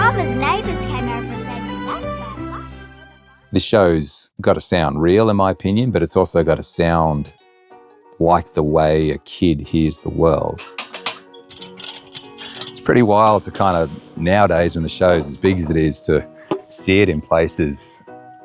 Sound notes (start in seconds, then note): 10.4 metal clattering; 10.5 chain rattling